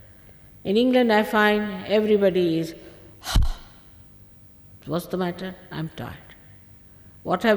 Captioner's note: shri mataji exhales - ha